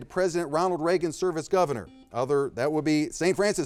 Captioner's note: buzzer beeping